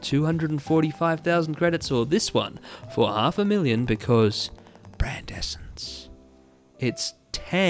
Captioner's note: whispered